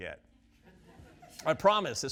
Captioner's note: audience laughs